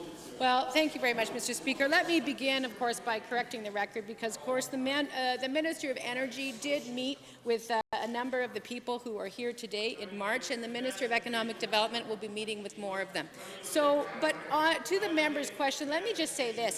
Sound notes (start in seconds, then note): 3.0 chatter